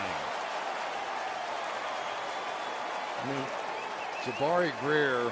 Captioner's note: cheering